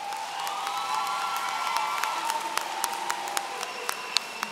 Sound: audience cheering

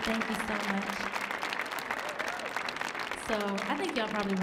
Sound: audience cheering

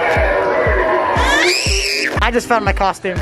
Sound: screams in fear

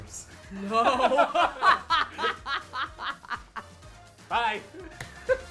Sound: laugh

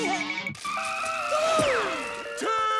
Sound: screeching

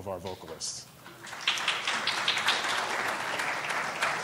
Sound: applauding

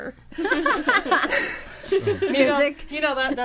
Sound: all laughing

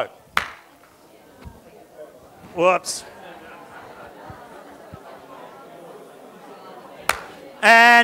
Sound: audience discussion

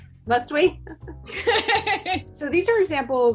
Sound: women laughing

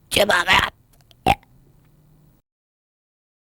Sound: burp

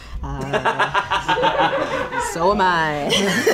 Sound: laughing

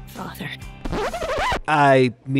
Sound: record scratch

